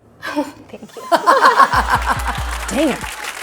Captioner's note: both laughing